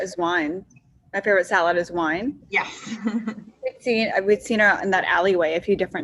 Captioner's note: laughs